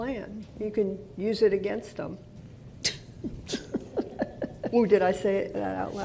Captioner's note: laughter